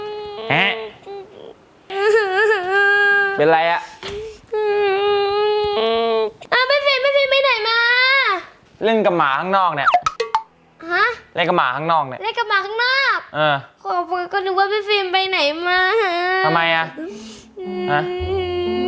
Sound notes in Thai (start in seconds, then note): 1.8 ร้องไห้